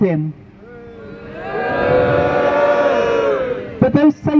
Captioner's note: crowd Boos